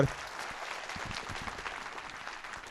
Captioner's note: applause